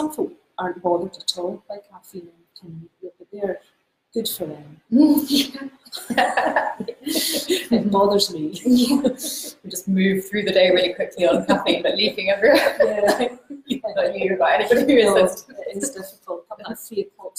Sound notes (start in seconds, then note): 5.9 laughs; 8.5 laughing